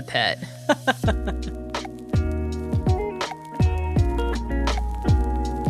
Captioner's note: LAUGHs